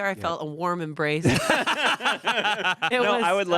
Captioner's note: everyone laughs